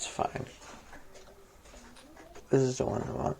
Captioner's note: near Silence